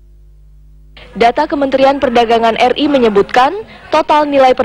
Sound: non-english speech

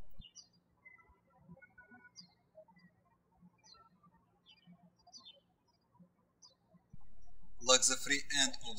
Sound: birds chirping

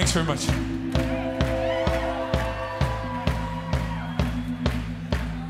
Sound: crowd cheering

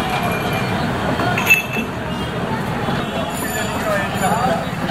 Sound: street sounds

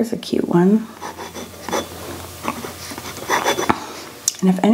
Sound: pen scratches

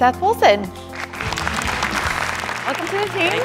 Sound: applause

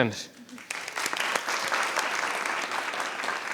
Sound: applause

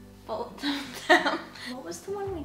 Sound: laughs

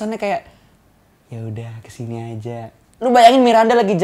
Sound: sleazy tone

